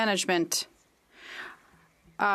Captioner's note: speaking French